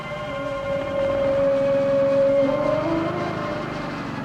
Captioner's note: motor toboggan humming